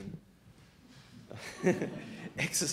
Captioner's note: laughing